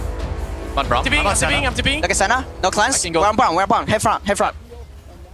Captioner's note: teammates communicating